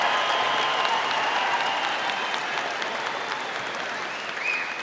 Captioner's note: audience applauding